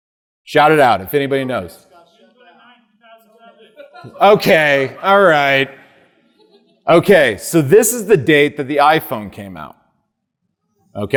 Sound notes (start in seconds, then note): 1.2 audience laughing